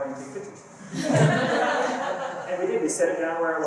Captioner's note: laughter